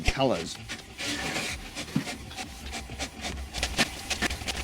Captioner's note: staccato printing; printing accelerates